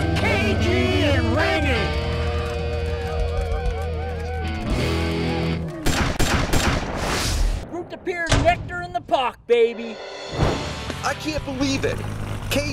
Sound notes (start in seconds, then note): 2.0 applause; 6.0 banging